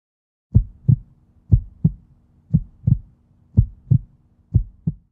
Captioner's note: heart beating